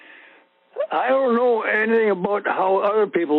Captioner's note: over the Phone